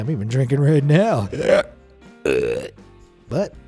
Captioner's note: burps